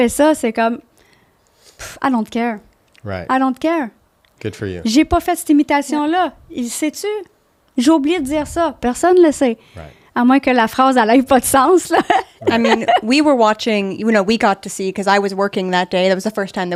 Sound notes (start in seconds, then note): 0.3 in french; 4.8 in french